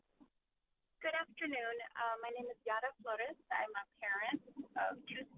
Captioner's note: speaking spanish